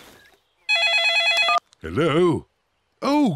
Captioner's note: phone rings